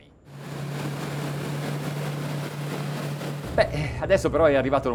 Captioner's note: engine whirring